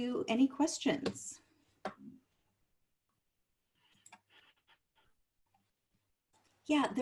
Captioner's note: silence